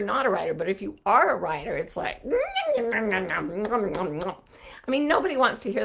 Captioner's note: odd sounds with mouth